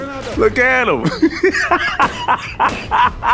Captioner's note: laughs